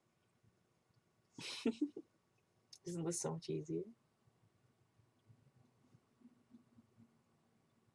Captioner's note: laughs